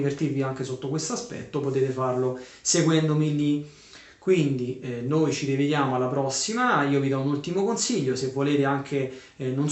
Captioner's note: Italian